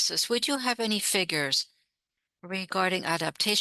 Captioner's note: speaking French